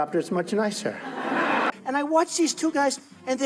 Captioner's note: laughing